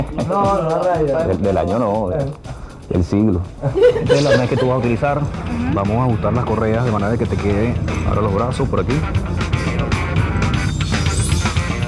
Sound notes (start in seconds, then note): 3.6 laugh